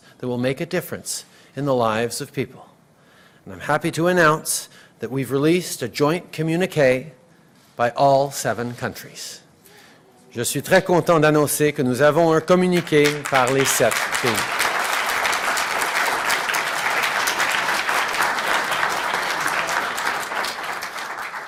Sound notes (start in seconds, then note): 13.3 applause